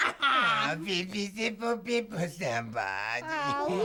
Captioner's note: speaking gibberish